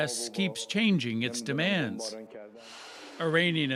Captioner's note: speaking alternate language